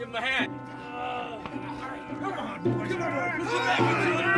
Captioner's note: all groaning